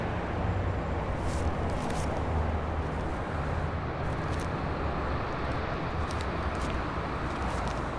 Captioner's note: money crinkling